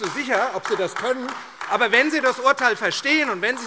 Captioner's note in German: Beifall AfD